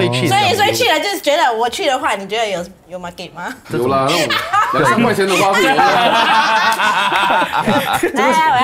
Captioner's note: laughs